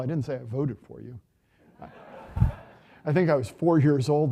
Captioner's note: audience laughing